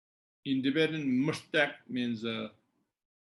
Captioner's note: tibetan